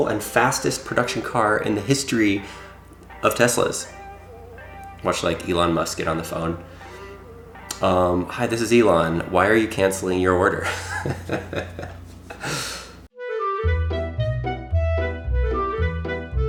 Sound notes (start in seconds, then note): 10.6 chuckling; 13.1 playful music